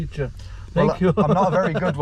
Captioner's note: laughs